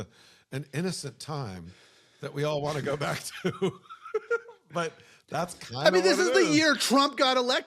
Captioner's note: laugh